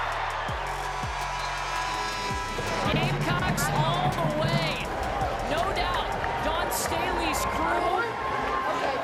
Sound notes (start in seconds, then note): 0.0 cheering; 0.8 buzzer sounds